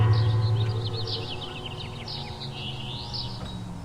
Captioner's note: birds tweeting